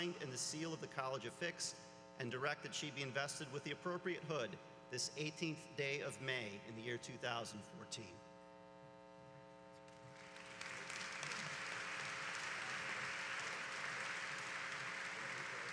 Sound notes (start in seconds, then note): 9.8 applause